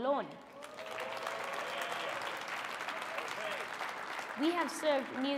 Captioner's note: audience cheering and clapping